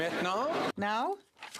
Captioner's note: speaking French